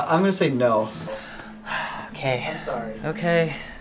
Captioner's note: sighs